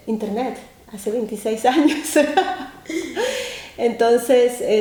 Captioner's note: laughing